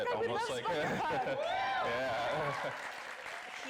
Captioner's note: laughing; audience applauding